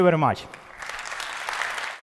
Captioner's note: applause